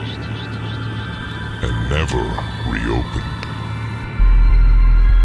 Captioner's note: voice echoes; voice becomes very deep